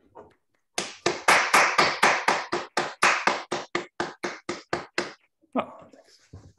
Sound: applause

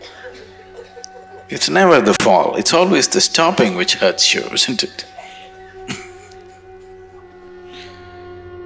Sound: laughs

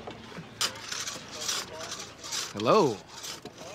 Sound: workers sawing

